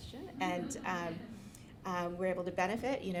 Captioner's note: audience laughing